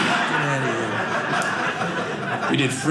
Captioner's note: audience laughing